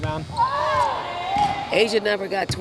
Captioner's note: players cheering